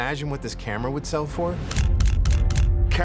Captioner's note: camera shutter clicking